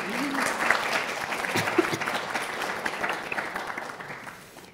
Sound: audience applauding

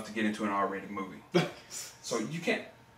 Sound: Kenny laughs

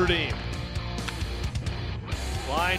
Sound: crack of the bat

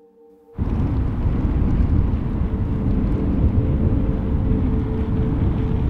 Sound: strong wind blowing

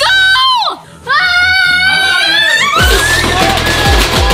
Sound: screaming; fast paced electronic music

